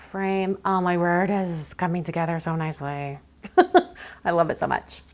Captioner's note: laughs